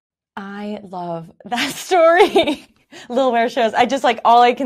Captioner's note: laughing